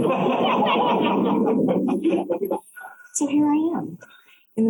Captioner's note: laughter